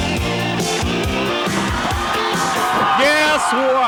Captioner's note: audience cheering